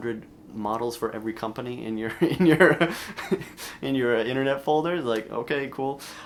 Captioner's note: chuckles